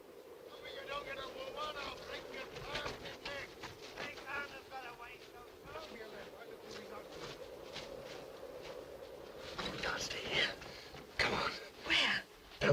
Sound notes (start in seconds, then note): 6.0 men chattering; 6.0 wind blowing